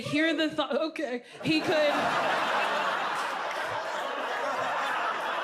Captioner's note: audience laughs